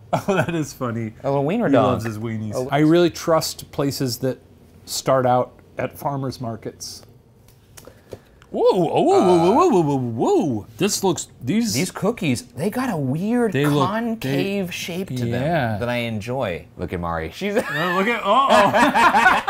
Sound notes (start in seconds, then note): 17.5 Shane and Ryan laughing; 17.6 laughing